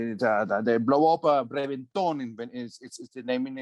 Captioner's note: speaking foreign language